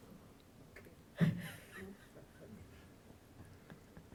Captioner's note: laughing